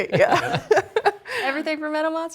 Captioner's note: laughter